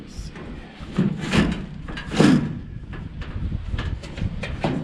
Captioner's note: metal clanking